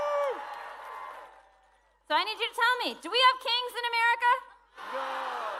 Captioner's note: cheering